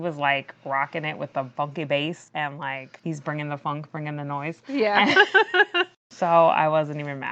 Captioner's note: laughs